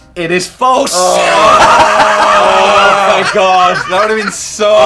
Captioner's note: laughing